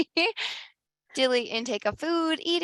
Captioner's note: laughs